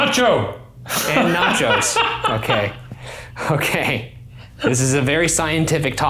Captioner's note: laughing